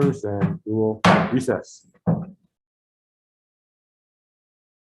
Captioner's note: gavel bangs